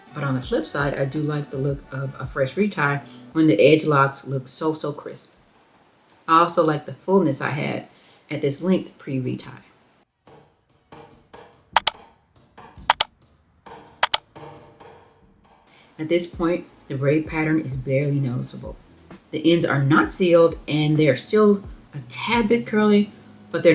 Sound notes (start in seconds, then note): 12.0 mouse clicks